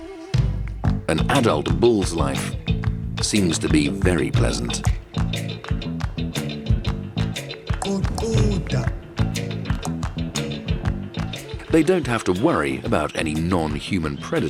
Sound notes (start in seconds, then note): 4.3 dramatic African music; 7.3 speaking in foreign language